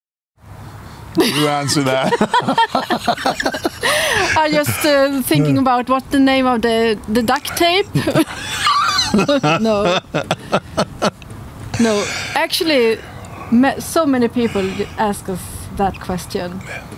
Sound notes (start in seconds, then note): 1.2 laughing